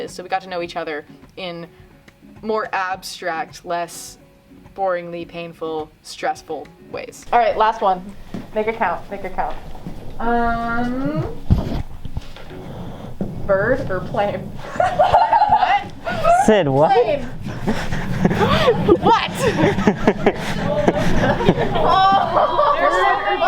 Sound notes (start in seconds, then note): 14.6 laughter; 19.9 laughter